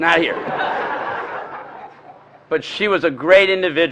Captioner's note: laughter